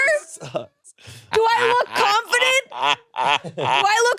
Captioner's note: laughs